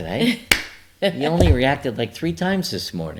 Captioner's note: laughs; hands smack